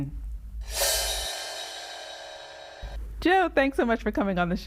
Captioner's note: graphic whooshing